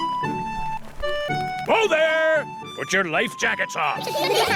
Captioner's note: all giggle